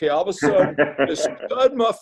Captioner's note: laughs